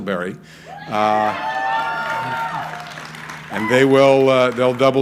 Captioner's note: crowd cheering